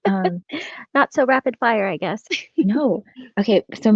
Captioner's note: laughs